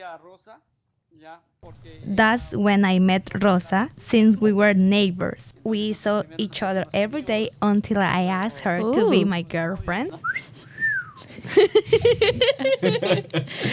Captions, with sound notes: (speaks Spanish) That's when I met Rosa, since we were neighbors. We saw each other every day until I asked her to be my girlfriend. - Ooo (flirtatious whistle) (laughs)